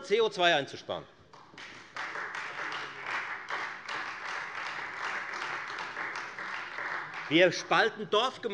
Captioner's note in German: Beifall Freie Demokraten